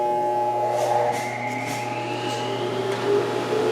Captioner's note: saw buzzing